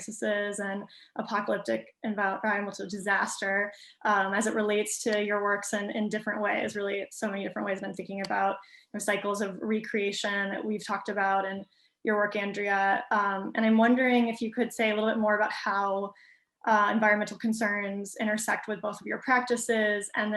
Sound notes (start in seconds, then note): none